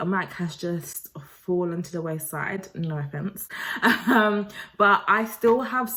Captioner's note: chuckles